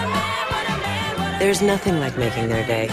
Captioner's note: laughing